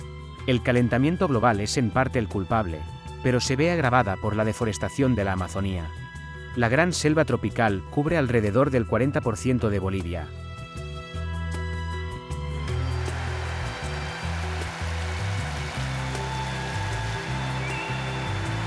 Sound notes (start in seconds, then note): 12.7 dramatic music; 13.2 rain drumming